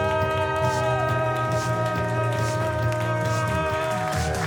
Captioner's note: crowd cheering